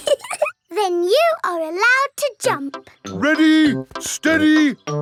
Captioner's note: laughing